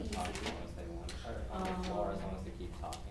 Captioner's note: students talking to each other